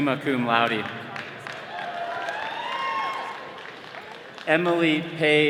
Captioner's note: attendees clapping